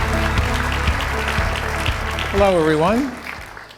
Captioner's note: audience applauding